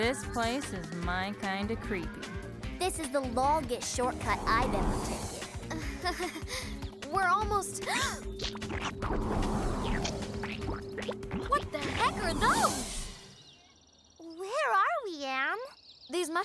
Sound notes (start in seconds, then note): 5.6 giggles; 6.4 gasps